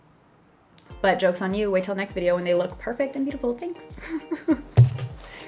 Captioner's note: giggles